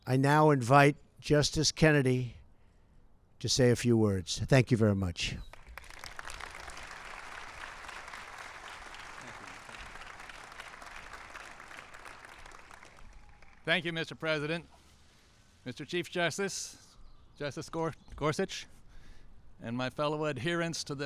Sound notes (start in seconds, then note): 5.4 applause